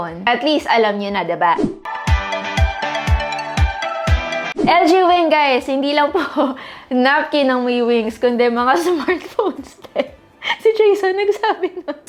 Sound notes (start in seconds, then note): 1.8 entertainment music; 11.2 giggles